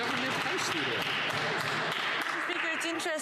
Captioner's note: some Applause